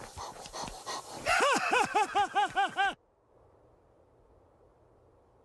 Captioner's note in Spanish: Abuelo riendo